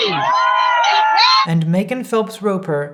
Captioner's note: crowd cheering